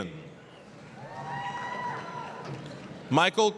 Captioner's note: applause, cheering